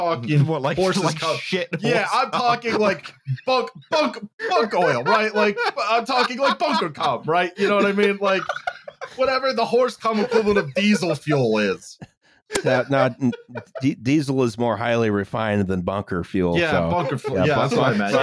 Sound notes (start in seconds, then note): 0.4 laughing; 4.4 laughing like a woman possessed